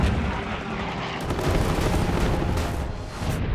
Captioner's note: gunfire